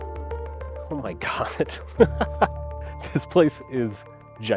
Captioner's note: frantic music; laughs